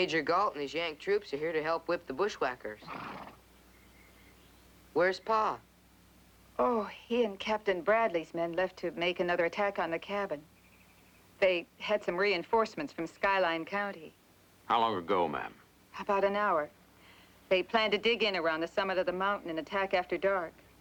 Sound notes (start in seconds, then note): none